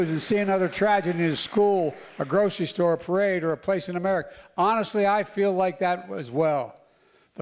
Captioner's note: applause